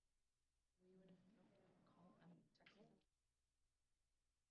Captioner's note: indistinct chatter